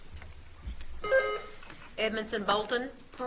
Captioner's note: buzzer beeps